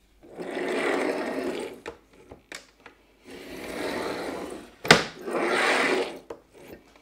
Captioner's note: metal cutter rolls loudly against cardboard